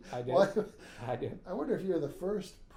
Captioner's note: laughing